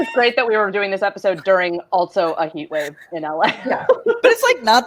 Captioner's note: laughs; laughs